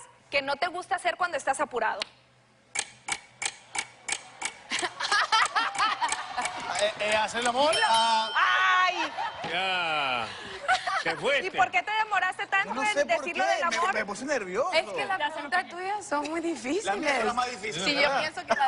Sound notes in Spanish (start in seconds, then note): 3.6 Tic-tac del cronómetro; 6.9 Exclamaciones; 6.9 Risas; 10.3 Risas